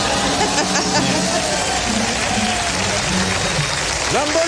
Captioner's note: applause